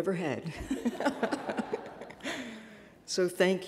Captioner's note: laughs